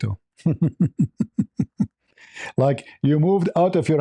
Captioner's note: laughter